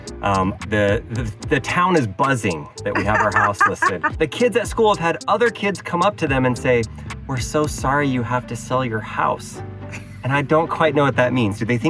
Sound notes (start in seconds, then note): 2.9 laughing